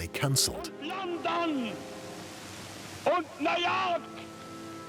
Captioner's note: speaking German